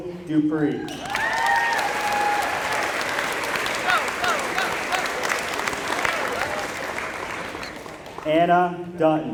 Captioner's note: applause